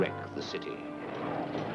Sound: people chattering

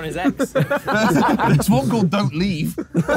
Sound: all laughing

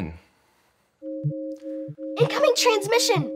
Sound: computer alarm sounds

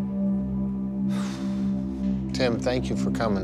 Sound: sighs

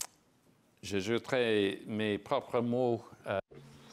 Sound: speaking in French

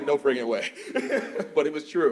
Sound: laughs

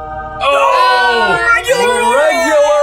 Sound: everyone exclaiming

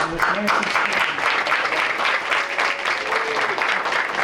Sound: applause

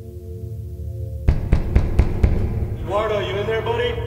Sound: security guard pounding on door

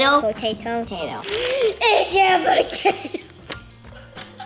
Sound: gasp; laughing

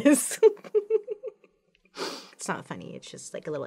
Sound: laughs

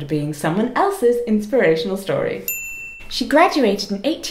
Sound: bell sfx

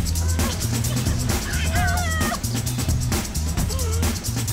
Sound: giggling

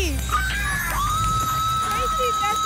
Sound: applause and cheering

